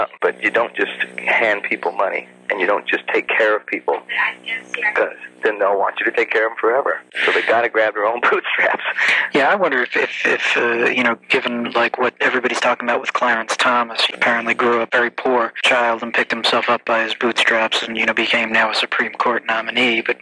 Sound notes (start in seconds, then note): 8.1 laughs